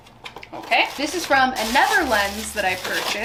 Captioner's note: paper crunches